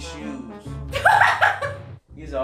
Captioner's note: laughing